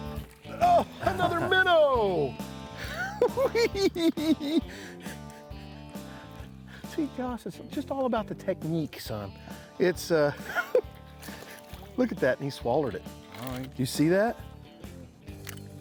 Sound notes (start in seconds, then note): 2.7 laughing